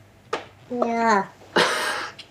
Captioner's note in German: Lachen